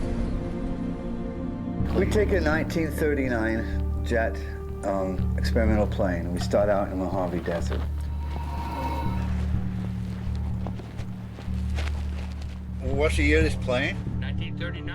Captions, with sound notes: We take a 1939 jet, experimental plane, and we start out in Mojave Desert. (haunting music) (footsteps rustling) What's the year of this plane? - 1939. - 1939.